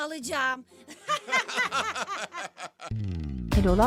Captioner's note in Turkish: Gülme sesleri